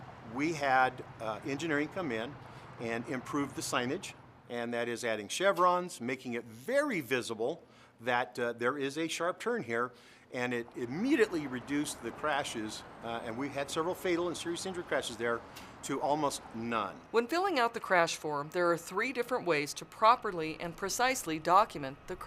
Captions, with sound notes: [sounds of vehicles driving on road] We had, uh, engineering come in and improve the signage, and that is adding chevrons, making it very visible that, uh, there is a sharp turn here and it [sounds of cars driving on road] immediately reduced the crashes. [sounds of vehicles driving] Uh, and we had several fatal and serious injury crashes there to almost none. When filling out the crash form, There are three different ways to properly and precisely document